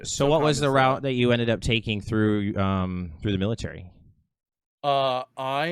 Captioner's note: none